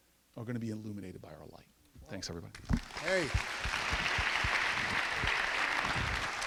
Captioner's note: applause